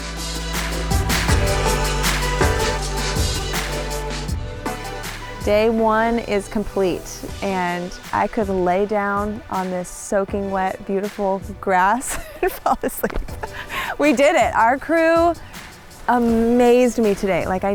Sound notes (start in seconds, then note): 0.2 bright music; 12.0 laughs